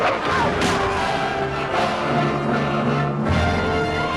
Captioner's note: villager screams